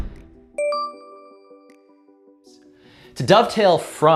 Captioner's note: bell dings